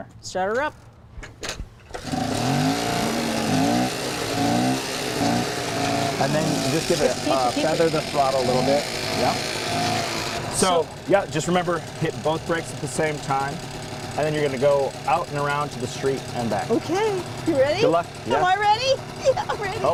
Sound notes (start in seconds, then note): 2.1 engine Roars